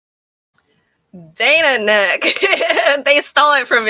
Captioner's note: laughing